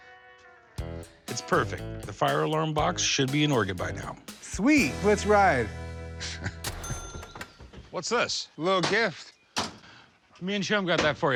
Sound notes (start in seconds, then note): 6.2 chuckles; 6.6 cash register dings